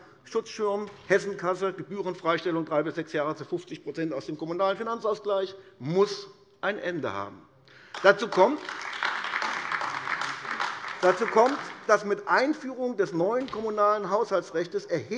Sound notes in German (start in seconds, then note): 7.8 Beifall AfD